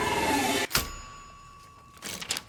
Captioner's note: typewriter dings